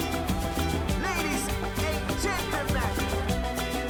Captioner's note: voiceover